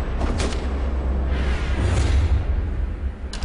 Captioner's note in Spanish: Disparo